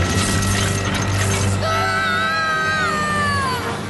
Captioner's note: screams